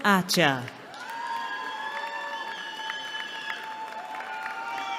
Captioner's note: cheering